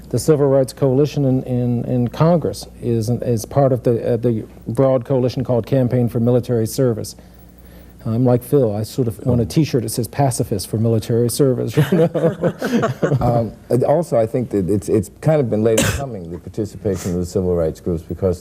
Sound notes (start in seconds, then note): 11.8 all laugh